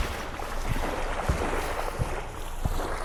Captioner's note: footsteps